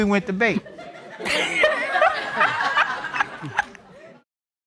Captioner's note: all laughing